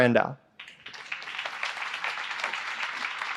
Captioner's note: applause